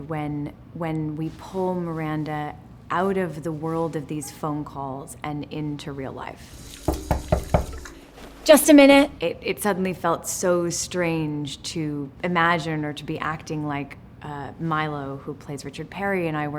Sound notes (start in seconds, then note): 6.8 Richard knocking on the door